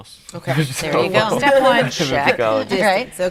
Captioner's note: laughing